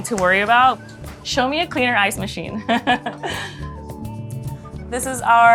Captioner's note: laughs